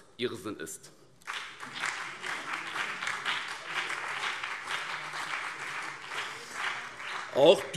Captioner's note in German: Beifall BÜNDNIS 90/DIE GRÜNEN, vereinzelt CDU und SPD